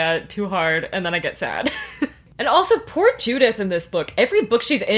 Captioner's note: laughs